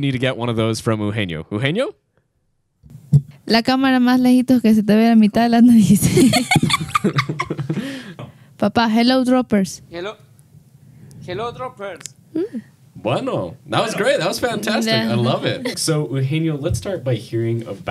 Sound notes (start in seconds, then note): 3.6 speaks in Spanish; 6.0 laughs; 13.4 speaks in Spanish